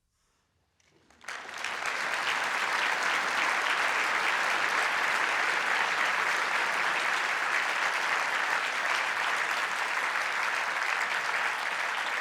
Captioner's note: audience applause